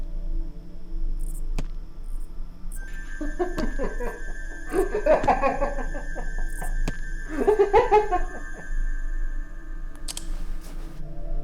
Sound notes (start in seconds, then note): 0.2 suspenseful music; 3.0 clown laughing